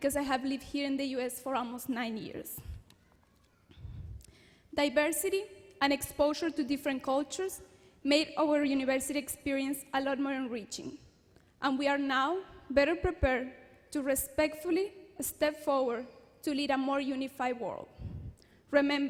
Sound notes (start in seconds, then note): none